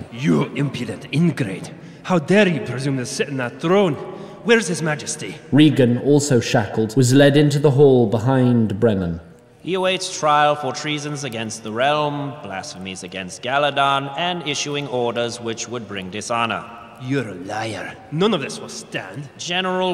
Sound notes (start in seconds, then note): none